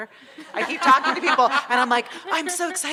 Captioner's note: audience laughing